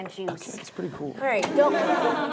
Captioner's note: laughing